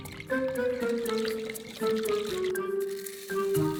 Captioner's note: whisking liquid